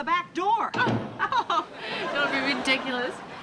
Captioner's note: chuckles